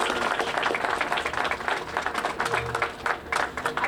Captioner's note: applause